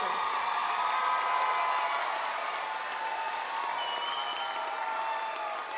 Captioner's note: audience applauds